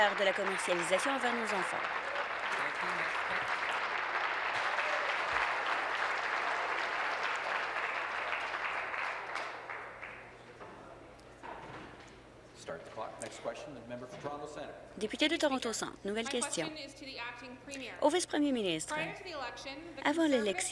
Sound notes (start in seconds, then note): 2.4 applause; 7.3 continued applause